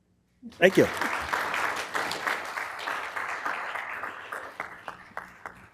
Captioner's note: applause